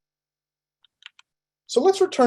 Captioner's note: keyboard clanking